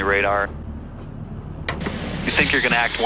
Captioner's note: clicks